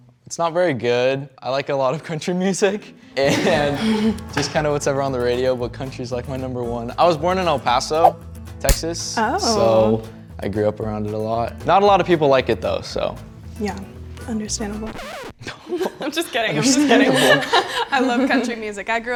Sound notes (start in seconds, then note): 14.8 record scratches